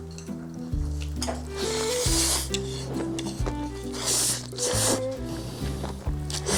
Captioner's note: noodles disappearing with a slurp